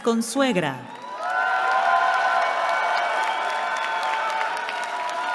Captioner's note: cheering